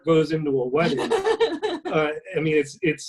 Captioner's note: laughing